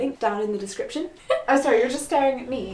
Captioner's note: laughs